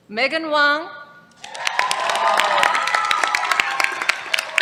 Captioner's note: cheers, applause